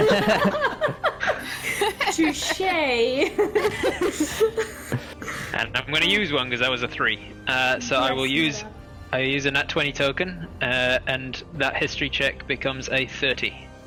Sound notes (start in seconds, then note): 0.0 all laughter; 0.0 more giggles; 3.4 continued giggles; 8.1 murmuring